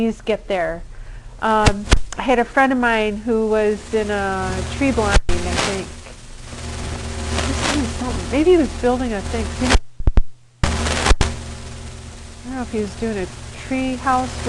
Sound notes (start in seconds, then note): 6.2 mic distortion; 7.9 mic cuts out